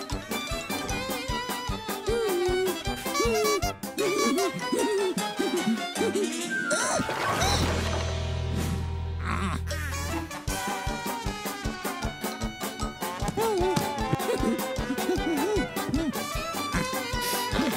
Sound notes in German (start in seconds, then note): 0.9 fröhliche Musik; 2.7 Hupen; 11.5 fröhliche Musik